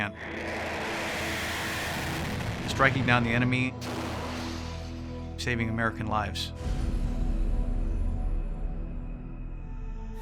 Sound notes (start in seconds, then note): 0.0 plane taking off; 4.0 explosion